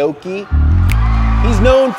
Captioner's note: cheering